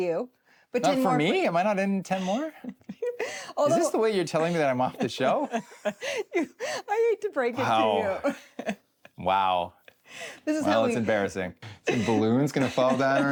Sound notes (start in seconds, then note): 4.0 chuckles; 7.6 chuckles